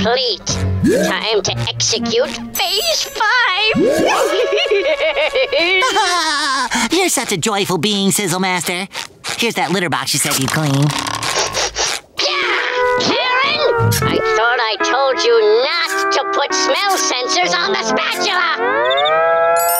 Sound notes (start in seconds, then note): 3.6 laughing; 11.2 sniffing